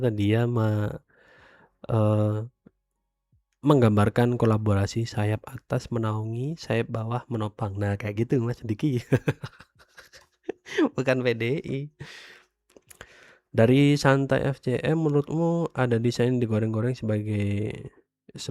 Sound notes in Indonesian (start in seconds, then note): 9.1 tertawa